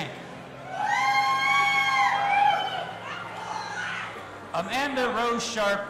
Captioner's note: audience applauding and cheering